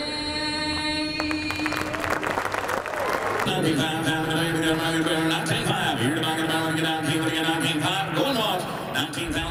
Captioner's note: applause